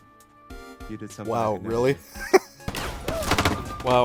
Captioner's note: chuckle